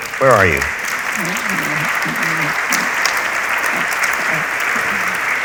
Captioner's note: audience applauds